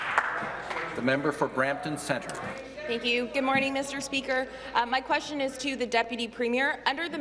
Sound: applause

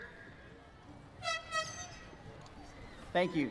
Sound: airhorn sounds

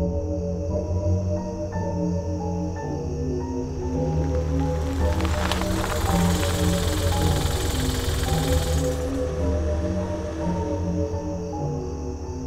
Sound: music, car drives up, people get out, footsteps in gravel

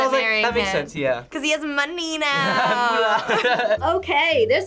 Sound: laughs

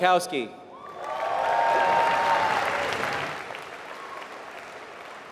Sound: applause

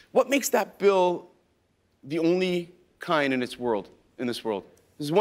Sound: none

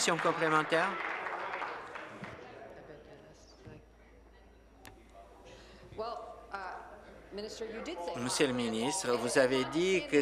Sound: applause

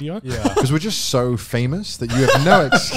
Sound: laughs

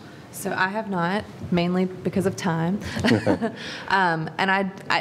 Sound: laugh

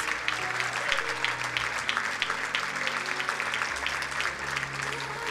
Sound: crowd applauding; soft electronic music

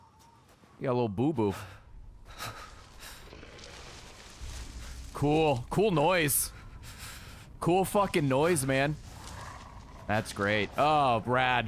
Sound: growls

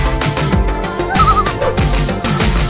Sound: loon call

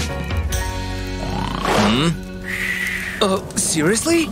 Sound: grumbles; snoring; puffs

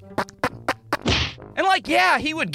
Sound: thwack!

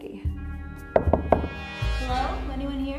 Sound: knocking

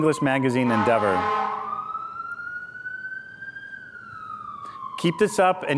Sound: firetruck sirens

